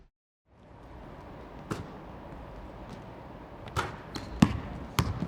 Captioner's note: basketball bouncing